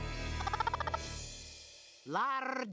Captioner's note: clucking